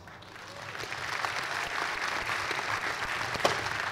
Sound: cheers and applause

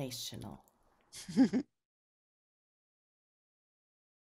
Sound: chuckles

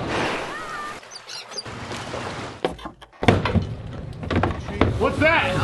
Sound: waves crashing; seagulls chirping

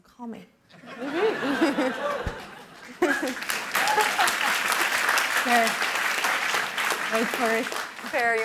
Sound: laughter and applause

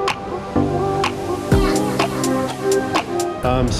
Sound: none

